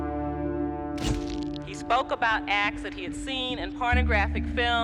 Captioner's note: shutter clicks